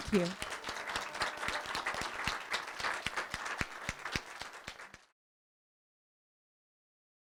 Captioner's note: applause